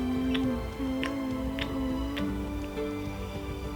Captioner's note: puppy Smooches